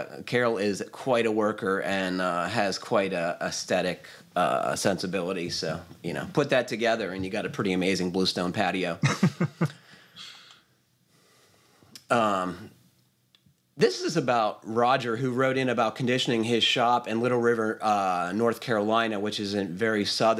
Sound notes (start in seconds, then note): 9.0 laughs